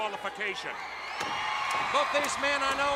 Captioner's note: crowd cheering